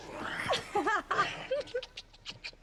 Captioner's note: laughs